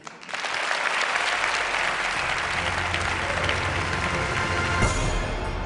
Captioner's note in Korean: 박수